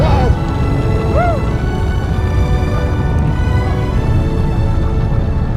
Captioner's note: crowd Cheers